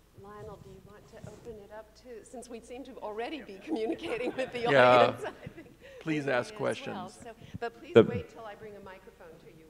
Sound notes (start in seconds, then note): 3.6 chuckling